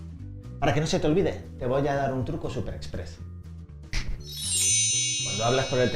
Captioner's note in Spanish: sonido magia